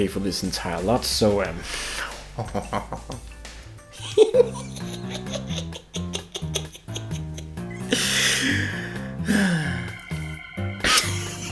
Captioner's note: opens lid and laughs, then shows camera